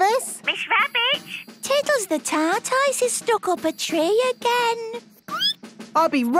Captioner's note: squeaking